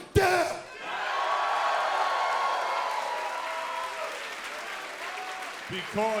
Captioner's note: crowd cheering